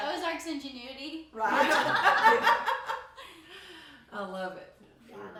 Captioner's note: laughing